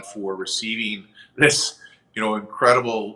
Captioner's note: chuckles